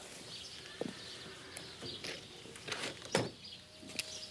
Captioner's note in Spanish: pássaros cantando